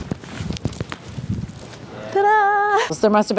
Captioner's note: microphone tapping